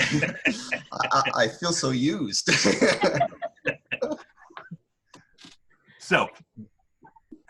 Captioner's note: laughter